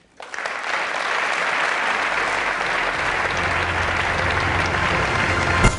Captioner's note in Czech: potlesk